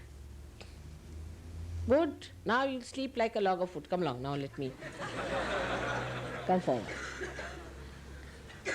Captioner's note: laughter